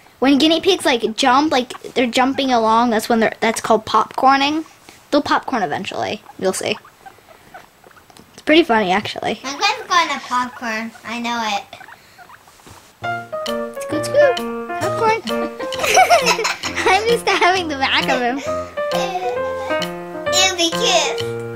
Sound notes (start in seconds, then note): 15.2 boys laughing; 18.6 playful music